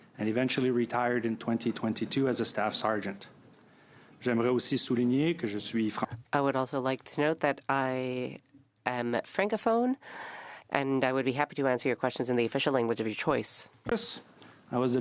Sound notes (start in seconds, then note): 9.1 speaking French